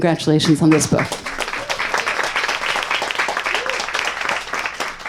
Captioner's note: audience applauds